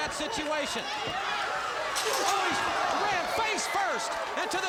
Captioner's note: crowd cheering